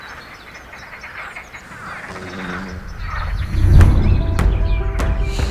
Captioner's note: many frogs calling